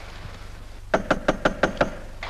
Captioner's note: knocking at door